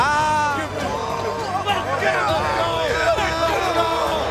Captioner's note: players cheering